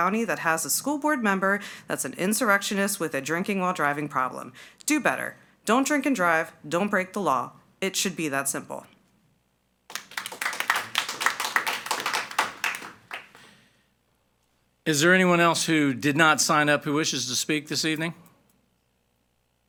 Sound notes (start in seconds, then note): 9.9 everyone applauding